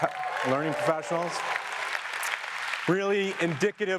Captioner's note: audience applause